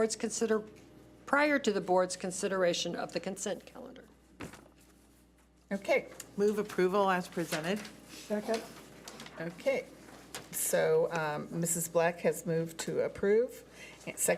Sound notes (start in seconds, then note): none